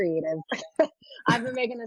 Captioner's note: laughs